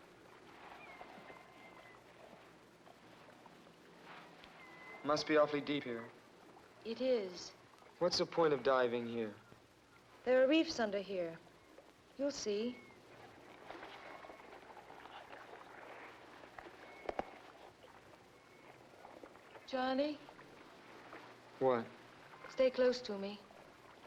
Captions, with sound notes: (seagulls squawking faintly) - It must be awfully deep here. - It is. - What's the point of diving here? - There are reefs under here. You'll see. (water laps against boat) (seagulls squawking faintly) Johnny? - What? - Stay close to me.